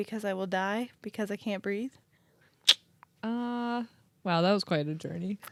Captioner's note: clicks tongue